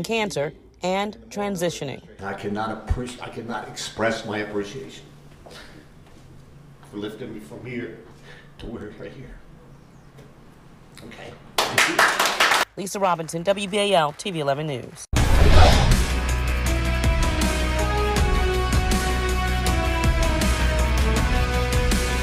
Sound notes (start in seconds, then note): 13.3 applause